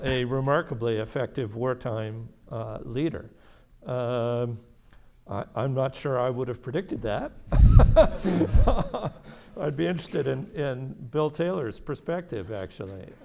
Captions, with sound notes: a remarkably effective wartime leader. I'm not sure I would have predicted that (chuckles). I'd be interested in Bill Taylor's perspective actually.